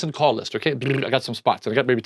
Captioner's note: mechanical purring